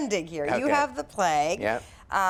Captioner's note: laughs